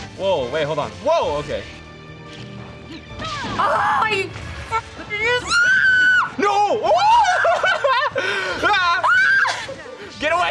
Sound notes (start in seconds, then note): 5.4 screams; 7.1 laughs; 8.7 screams